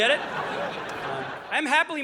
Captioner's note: audience laughing